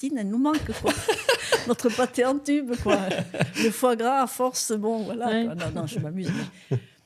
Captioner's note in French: rires